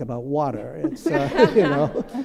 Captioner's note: laughter